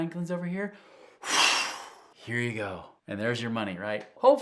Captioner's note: blowing